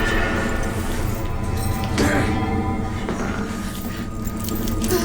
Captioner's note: dramatic music; grunting; chain rattling